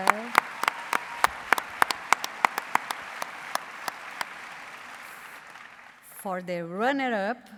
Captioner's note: applause